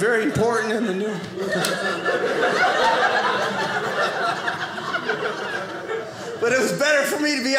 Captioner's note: audience laughing